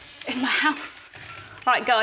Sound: door squeaks

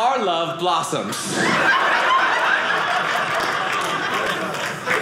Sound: audience laughing

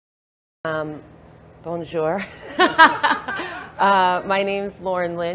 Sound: Rires

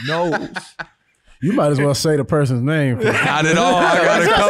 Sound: laughs

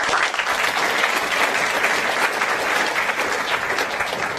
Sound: applause

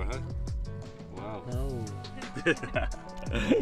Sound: laughing

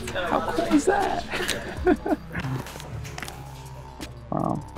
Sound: laughs

